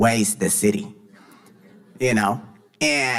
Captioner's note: audience laughing